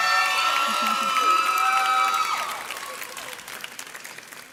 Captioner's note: audience cheers